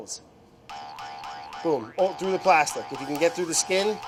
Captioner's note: spring bouncing